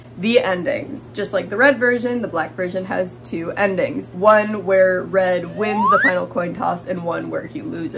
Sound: different slide whistle; slide whistle

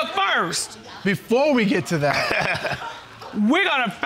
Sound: laughing

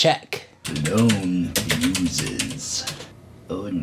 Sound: typing

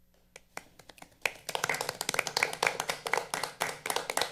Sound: all applauding

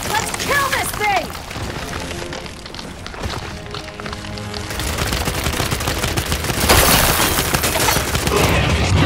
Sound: gunshots

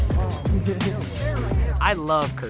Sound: laughs

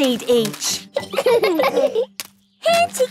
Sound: laughing

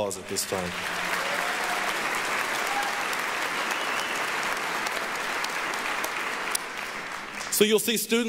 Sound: applause, cheering

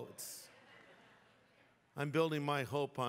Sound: laughter

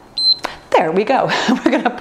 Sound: timer beeps

